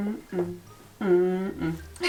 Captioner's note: mmm mm